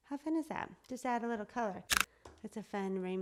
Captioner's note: clicks